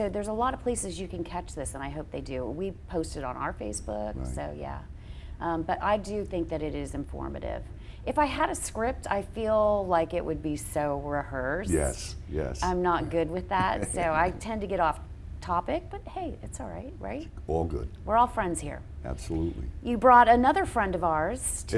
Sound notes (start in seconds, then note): 13.6 laughs